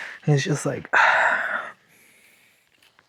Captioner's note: sighs and gasps